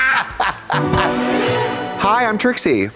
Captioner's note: blonde Women hee-haw; ghostly chime